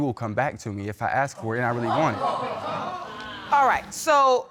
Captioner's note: audience clamoring